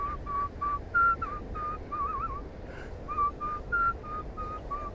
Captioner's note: whistles